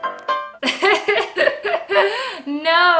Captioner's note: laughter